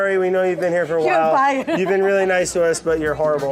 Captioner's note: laughs